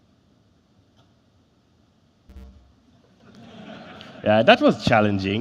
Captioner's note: laughter